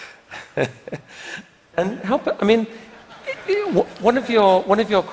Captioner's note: laughter